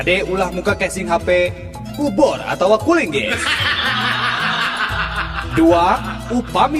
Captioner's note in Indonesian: tertawa